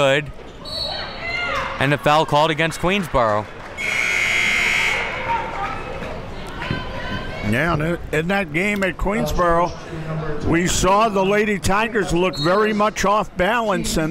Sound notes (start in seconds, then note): 0.6 whistle blows; 3.8 buzzer rings